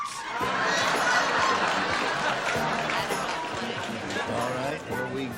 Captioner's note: laughter